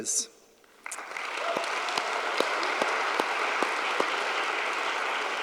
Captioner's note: audience applauding